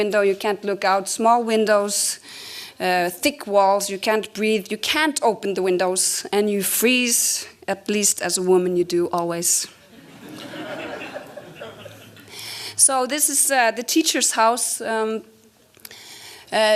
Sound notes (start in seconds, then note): 9.8 audience laughs